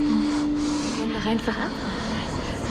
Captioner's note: speaking German